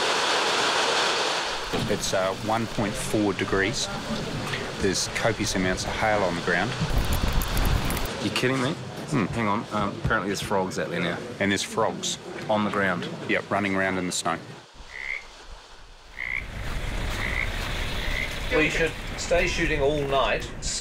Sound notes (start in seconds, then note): 16.0 frog croaking